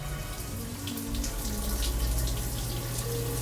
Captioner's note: humming